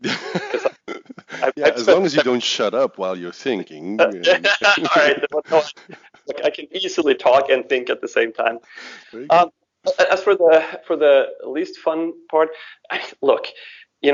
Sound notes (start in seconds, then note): 0.0 laughs; 4.0 laughs